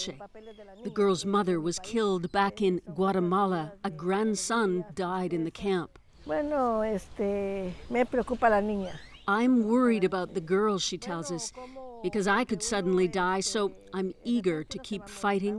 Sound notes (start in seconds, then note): 8.3 speaking spanish